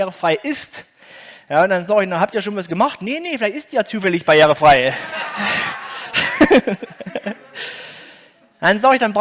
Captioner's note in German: Gelächter